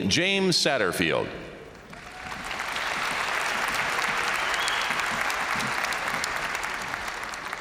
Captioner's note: crowd applauding; crowd cheering